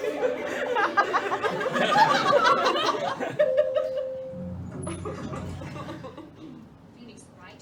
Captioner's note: laughter